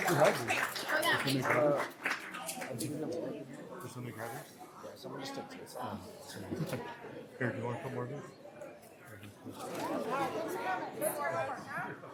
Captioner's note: applause